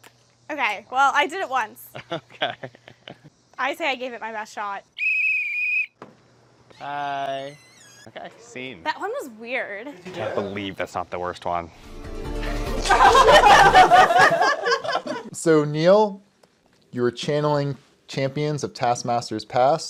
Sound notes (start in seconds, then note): 4.9 whistle; 11.7 outro Music